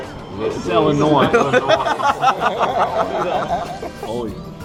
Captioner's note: laughing